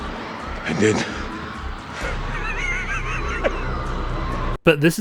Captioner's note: laughs